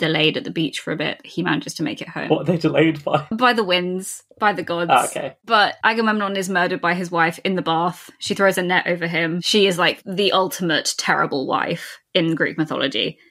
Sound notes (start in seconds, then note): 4.8 laughing